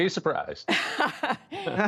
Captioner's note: laughter